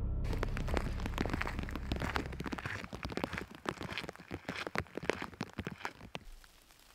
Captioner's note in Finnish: Aplodeja